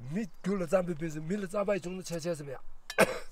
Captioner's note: tibetan conversation